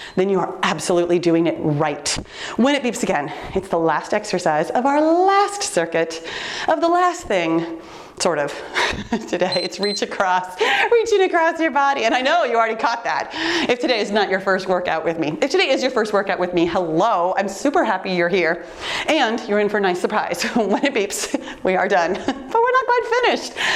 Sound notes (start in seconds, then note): 9.0 laughs; 9.5 timer beeps